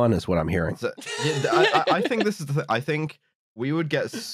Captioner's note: laughter